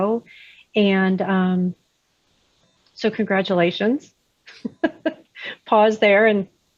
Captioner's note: laughs